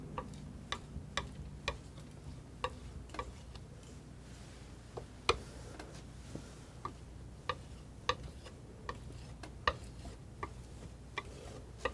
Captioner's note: scratching